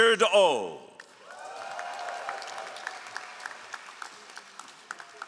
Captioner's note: all applauding